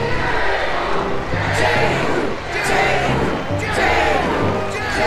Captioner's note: crowd chanting "Jehu"